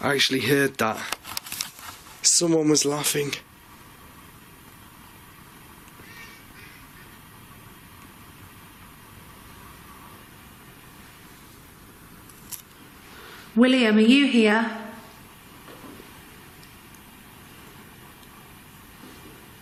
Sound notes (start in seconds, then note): 6.0 giggling